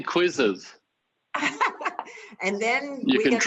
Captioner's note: laughs